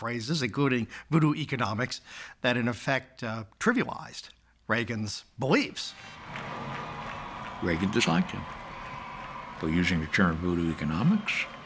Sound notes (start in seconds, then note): 6.0 audience cheering and applauding